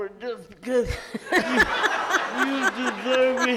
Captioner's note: loud laughter in audience